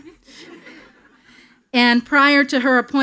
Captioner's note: attendees laughing